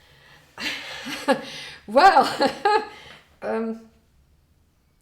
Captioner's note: laughs